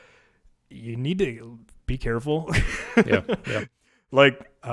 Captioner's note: laughs